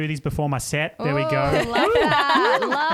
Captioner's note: hooting